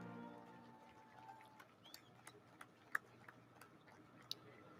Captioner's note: audience lauds